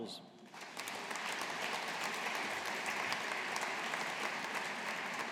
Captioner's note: audience applauding